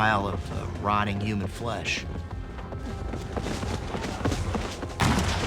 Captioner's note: cannons firing